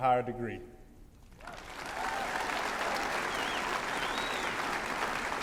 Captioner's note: applause